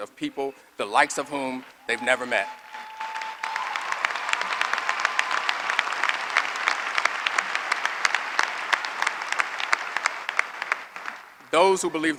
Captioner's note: applause